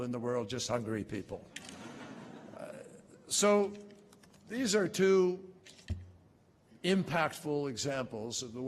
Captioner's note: laughter